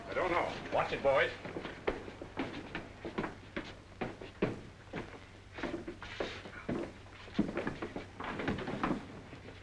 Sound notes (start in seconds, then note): 1.3 footsteps coming up stairs; 8.2 thump